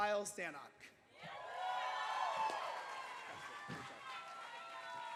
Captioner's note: cheers and applause